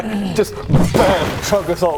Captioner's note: bam